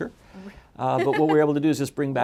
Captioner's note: laughs